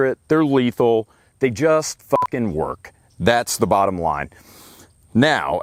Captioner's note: beep